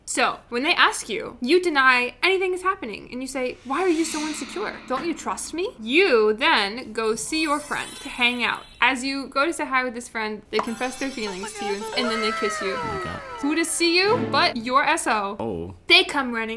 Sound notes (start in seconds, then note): 7.4 chimes; 10.6 bells; 11.0 squeaking voices